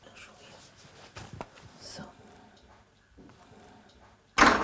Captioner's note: quietly